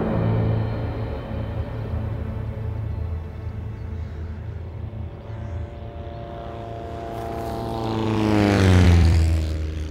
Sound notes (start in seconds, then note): 4.6 aircraft revving